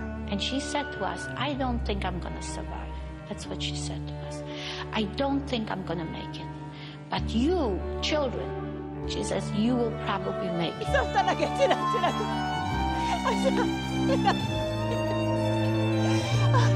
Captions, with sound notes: - And she said to us, ‘I don't think I'm going to survive.’ That's what she said to us. ‘I don't think I'm going to make it.’ ‘But you children-’ she says, ‘You will probably make it’ (sobbing) (music builds)